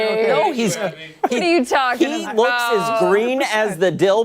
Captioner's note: laughter